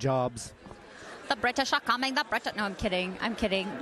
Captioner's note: British accent